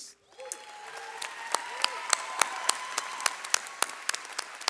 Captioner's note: audience applauds